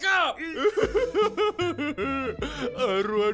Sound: sobbing

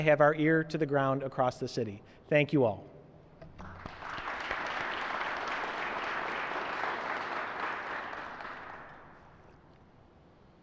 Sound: applause

